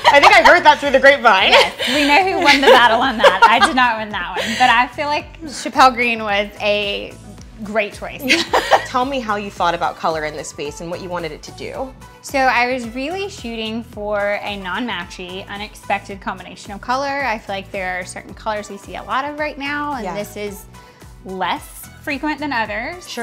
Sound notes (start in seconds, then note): 8.2 laughter